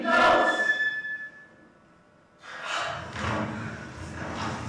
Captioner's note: gasps